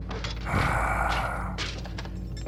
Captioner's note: sigh